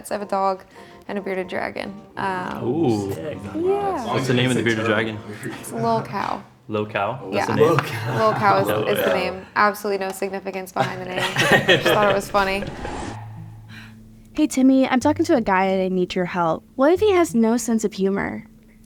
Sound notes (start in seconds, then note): 10.8 all laughing